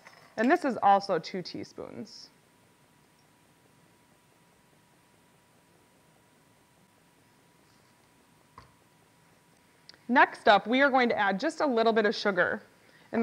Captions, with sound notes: And this is also two teaspoons. [Silence] Next up, we are going to add just a little bit of sugar.